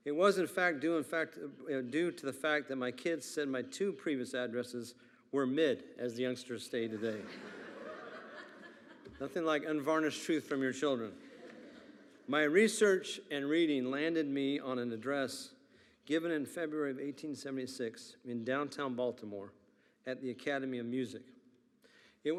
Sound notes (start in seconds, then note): 6.9 attendees laughing